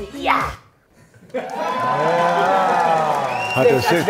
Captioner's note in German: Jubel, Applaus